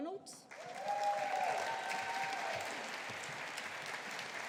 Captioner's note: audience applauding